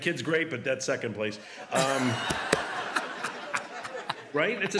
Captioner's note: laughter